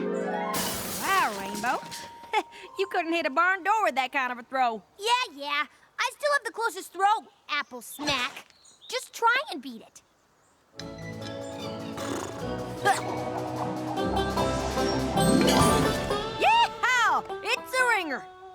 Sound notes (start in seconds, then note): 0.5 crash!; 2.2 chuckles; 11.8 neighs